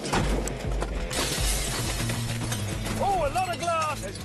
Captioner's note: glass shattering